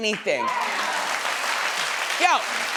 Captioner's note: audience clapping